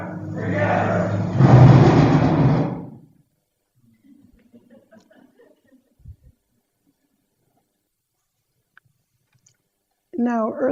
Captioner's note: thunder and lighting